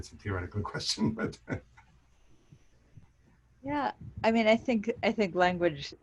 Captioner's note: laughs